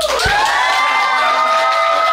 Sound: crowd cheering

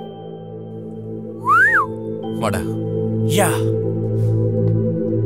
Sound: whistles

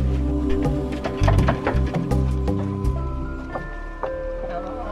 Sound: knocks on door

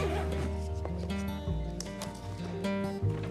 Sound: zipper closing bag

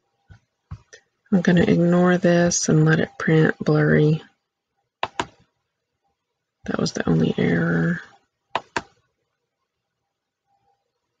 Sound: click

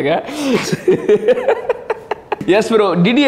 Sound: laughs

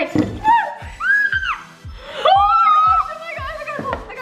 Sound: screaming

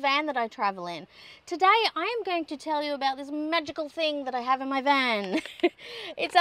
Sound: chuckles

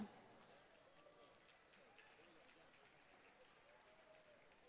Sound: applause

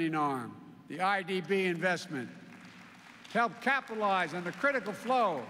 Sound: applause

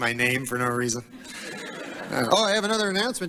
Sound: mild laughter

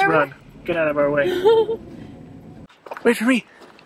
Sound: laughs

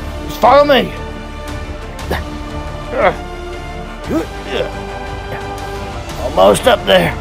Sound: struggling Sounds

